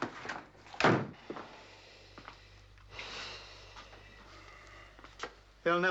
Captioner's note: exhaling